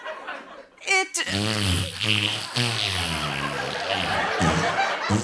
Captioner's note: flatulence